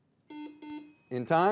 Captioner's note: buzzer dings